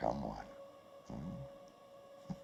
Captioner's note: chuckling